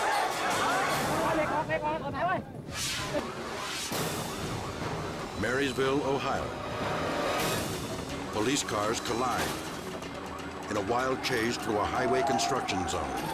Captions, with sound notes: (crowd shouts in foreign language) (dramatic music) (sirens wailing) Marysville, Ohio. Police cars collide in a wild chase through a highway construction zone.